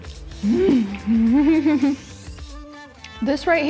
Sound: laughs

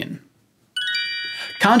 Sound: chimes

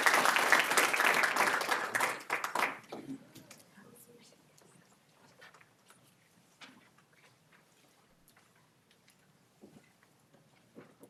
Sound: applause

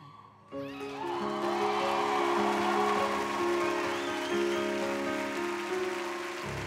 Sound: wistful music; audience cheering

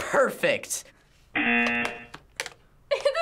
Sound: buzzer

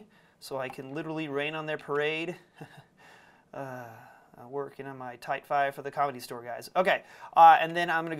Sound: sigh

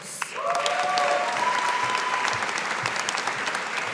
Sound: audience applauding

